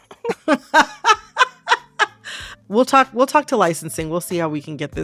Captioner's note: laughter